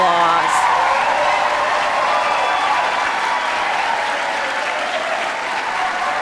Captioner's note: audience cheering; audience clapping